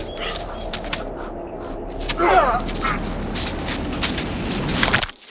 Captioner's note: choking